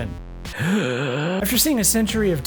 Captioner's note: gasp